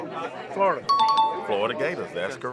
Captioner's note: chime dings